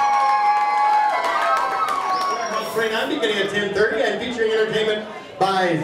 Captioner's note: cheering; more cheering; announcer background noise